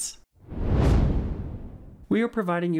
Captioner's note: whooshing